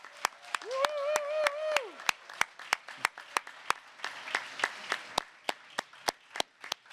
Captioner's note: applause